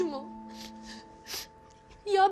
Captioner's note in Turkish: Ağlama sesi